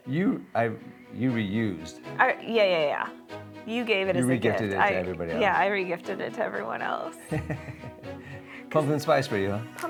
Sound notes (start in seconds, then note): 7.3 laughing